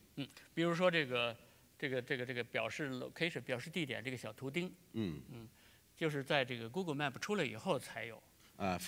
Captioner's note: speaking in Chinese